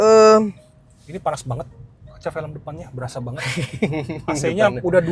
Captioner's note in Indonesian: tertawa